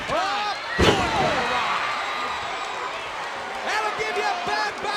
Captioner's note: audience cheers